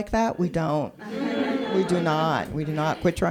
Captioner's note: audience groans